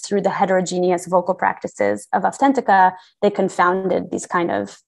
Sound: non-english

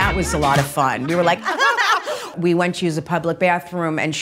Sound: laughs

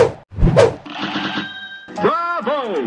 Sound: lots of chings!

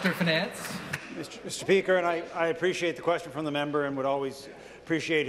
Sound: applause

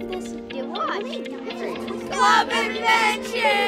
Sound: children talking

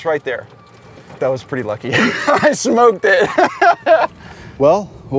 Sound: laughs

